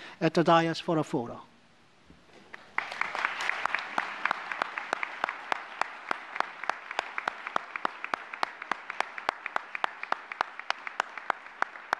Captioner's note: applause